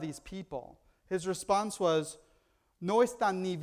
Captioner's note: foreign language